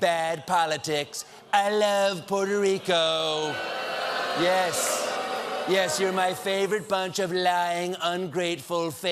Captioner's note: audience booing